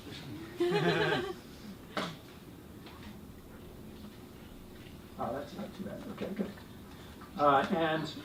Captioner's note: laugh